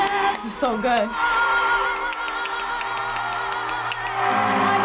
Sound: snapping; clapping

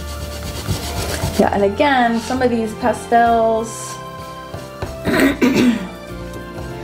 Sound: clears throat

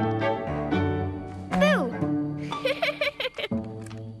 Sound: giggling

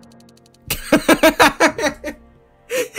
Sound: laughing

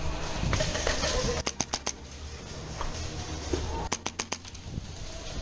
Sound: guns click rapidly

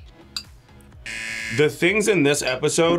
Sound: buzzer rings

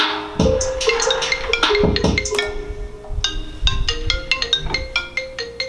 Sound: beat playing; iPhone ringing

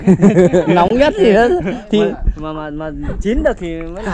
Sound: laughing

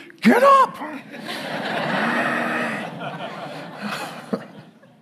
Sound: congregation laughing

